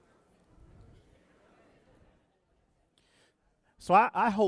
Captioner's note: audience chattering